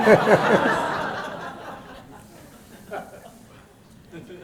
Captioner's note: laughter